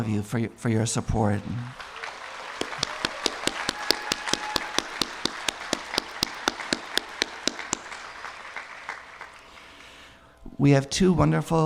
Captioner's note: applause